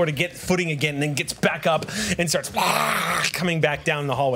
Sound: screams

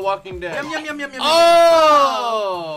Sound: gagging

